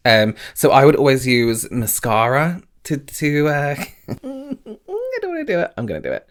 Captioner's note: faintly speaking